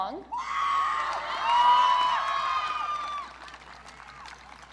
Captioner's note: audience cheering